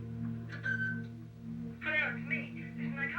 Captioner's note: machine beeps